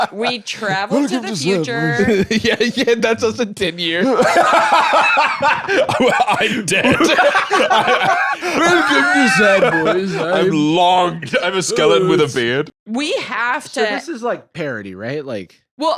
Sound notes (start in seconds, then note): 4.9 both laughing; 7.7 laughs